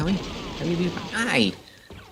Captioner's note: shot